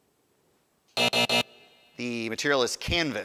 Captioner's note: buzzer buzzing